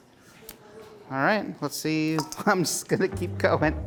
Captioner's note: chuckling